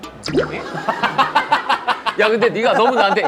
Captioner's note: laughing